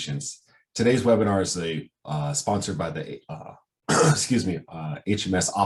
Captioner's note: coughs